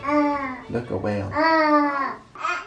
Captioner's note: babbles